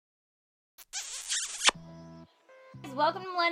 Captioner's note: kiss